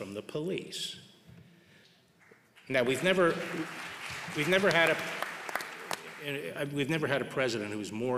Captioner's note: applause